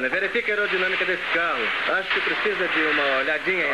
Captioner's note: chattering